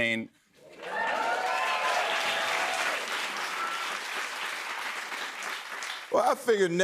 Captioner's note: cheers and applause